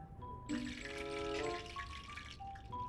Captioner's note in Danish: sydende lyd